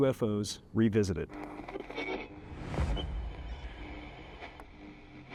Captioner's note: static sounds